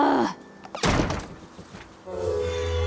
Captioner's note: slam